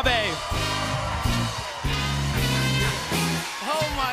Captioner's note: cheers and applause